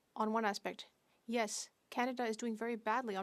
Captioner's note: speaking French